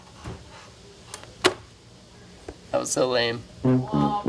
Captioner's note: phone click